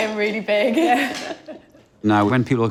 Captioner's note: laughs